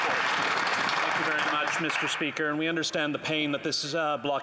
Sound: applause

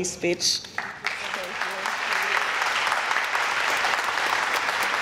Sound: applause

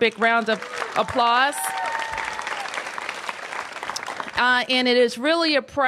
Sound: applause

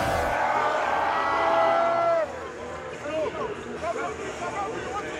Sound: men cheering

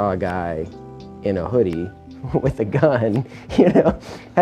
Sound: laughing

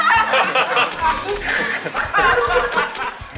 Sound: smear, smear

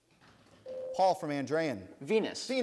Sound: ding

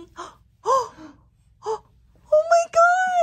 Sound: parents gasping

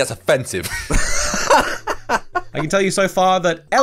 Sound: laughs

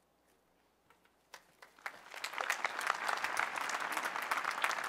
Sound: applause

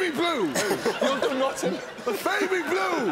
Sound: laughing

